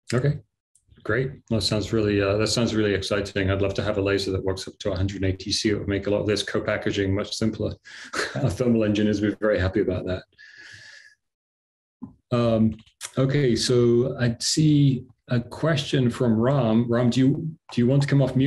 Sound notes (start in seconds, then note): 8.1 laughter